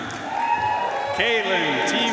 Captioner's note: audience cheering and applauding